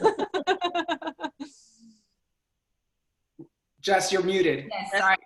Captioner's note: laughter